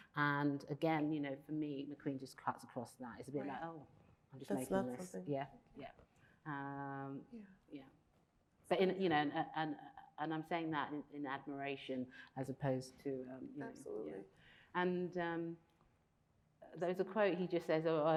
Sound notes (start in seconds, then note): none